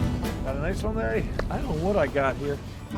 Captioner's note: voiceover